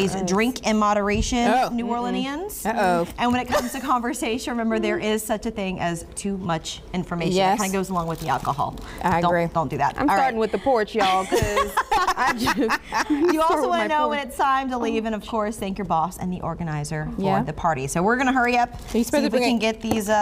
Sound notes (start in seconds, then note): 14.1 laughter